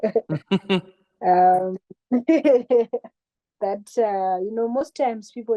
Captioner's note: laughter